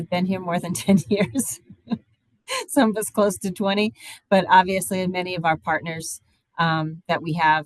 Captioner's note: laughs